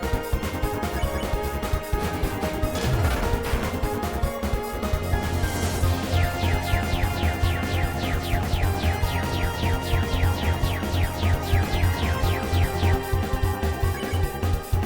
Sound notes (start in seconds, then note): 2.0 laughs